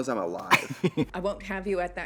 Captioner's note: Katya laughs